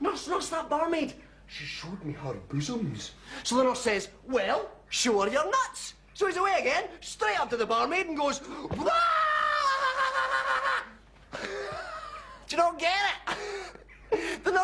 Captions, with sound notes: "Nurse, nurse, that barmaid, she showed me her bosoms." So the nurse says, "Well, show her your nuts." So he's away again, straight up to the barmaid and goes... (SCREAMS) Do you not get it?